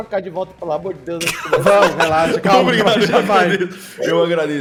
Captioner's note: laughs